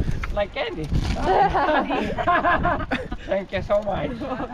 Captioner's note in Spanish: Risas